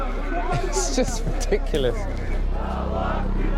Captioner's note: laughing